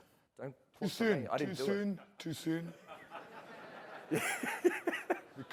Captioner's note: laughter